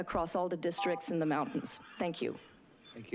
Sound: beeping

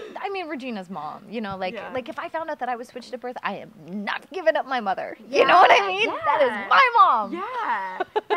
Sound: laugh

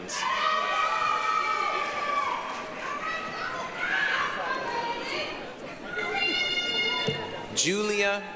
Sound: applause, cheering

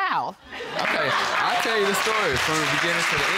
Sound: audience applauding

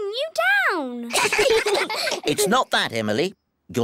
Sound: all giggle

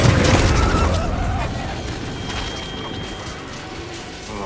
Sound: gunshots

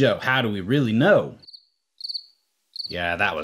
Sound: crickets Chirping

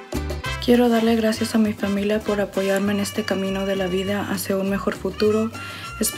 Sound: speaks in foreign language

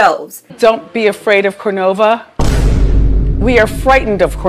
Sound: boom

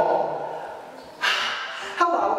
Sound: exhales

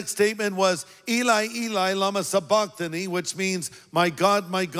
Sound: speaks in foreign language

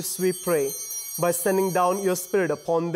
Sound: bell ringing

